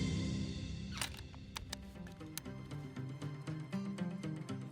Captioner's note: gun loading